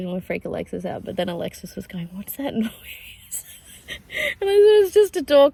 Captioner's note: wheezing laughter